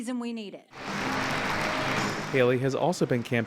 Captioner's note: crowd applause